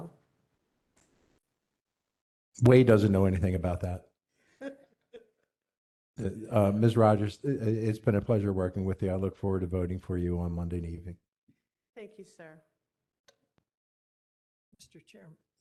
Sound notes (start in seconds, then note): 4.6 laughter